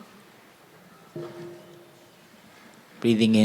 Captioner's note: sound of the bell